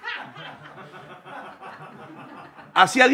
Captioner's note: laughter